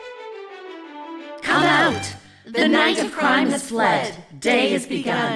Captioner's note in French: récitant un poème